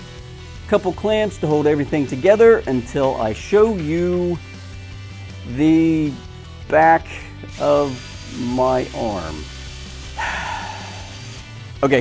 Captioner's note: sigh